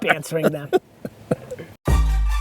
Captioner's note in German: Lachen; Hip-Hop-Musik